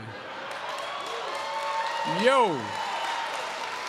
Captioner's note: laughter and applause